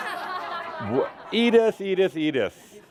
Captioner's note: laughter